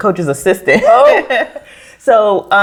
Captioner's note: all laugh